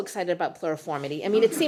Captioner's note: chuckles